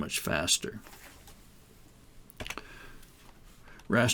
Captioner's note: silence